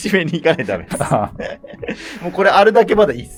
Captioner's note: laughing